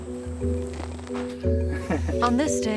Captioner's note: shoveling dirt